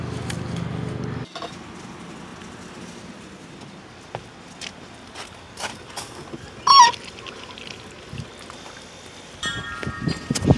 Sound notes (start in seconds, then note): 6.6 water hose spigot squeaks